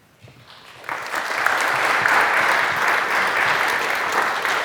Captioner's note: audience clapping